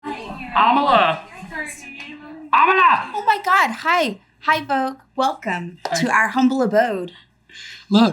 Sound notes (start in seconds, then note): 0.0 people chattering